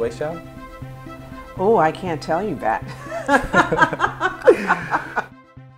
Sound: laughs

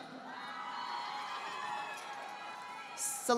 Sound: audience applauding

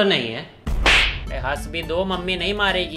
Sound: smack

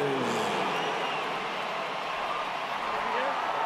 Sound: crowd cheering

